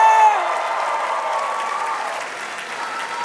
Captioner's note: applause; cheering; applause